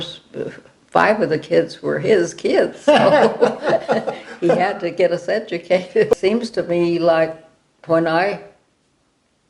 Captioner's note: laughter